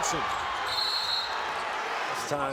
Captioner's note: whistle blows